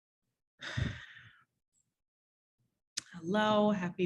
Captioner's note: sighs